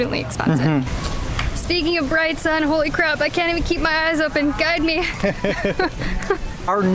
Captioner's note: laughs